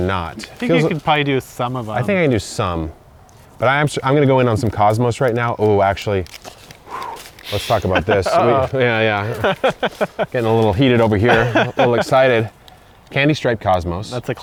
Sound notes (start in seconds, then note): 6.8 blows air out; 7.4 laughs